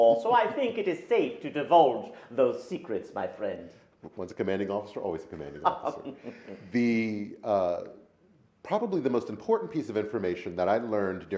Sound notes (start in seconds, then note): 5.5 laughs